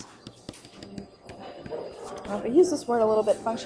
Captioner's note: stylus taps